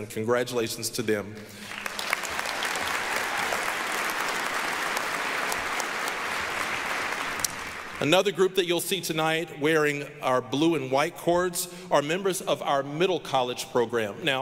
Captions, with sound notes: Congratulations to them. (applause) Another group that you'll see tonight wearing our blue and white cords are members of our Middle College program.